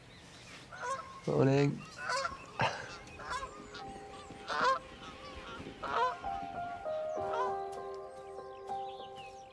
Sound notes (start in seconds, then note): 1.6 squawking; 6.7 gentle music